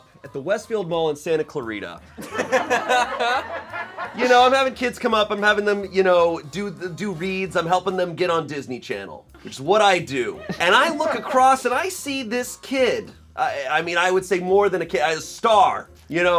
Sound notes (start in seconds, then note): 2.1 and crew laugh; 10.6 crew laughs